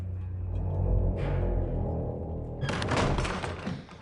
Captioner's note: deep rumbling noise